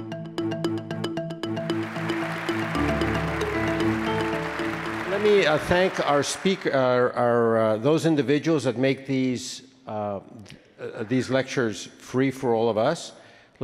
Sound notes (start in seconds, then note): 0.0 upbeat music; 1.6 attendees applause